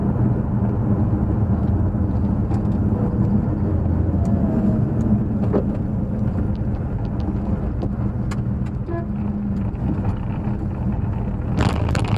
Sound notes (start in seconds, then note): 8.9 horn honk